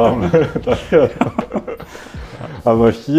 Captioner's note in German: lacht